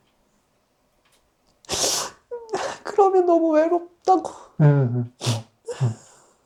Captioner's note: sobbing